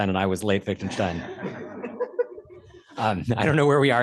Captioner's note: laughter